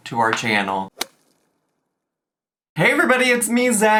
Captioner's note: logo thuds